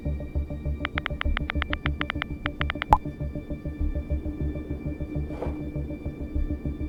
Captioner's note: typing sound